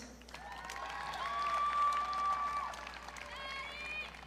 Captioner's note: audience cheering